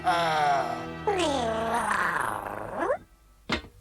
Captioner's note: purrs